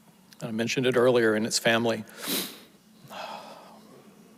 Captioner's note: sniffles